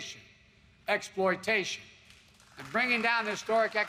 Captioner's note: applause